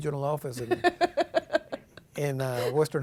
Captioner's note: laughing